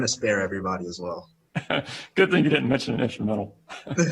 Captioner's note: laughter